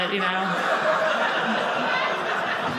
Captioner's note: audience laughing